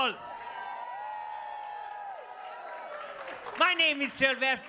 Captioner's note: audience cheers